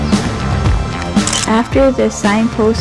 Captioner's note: photo Click